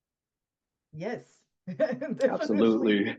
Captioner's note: laughs